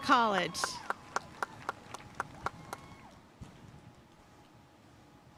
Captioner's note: audience cheering and applauding